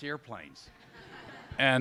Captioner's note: laughter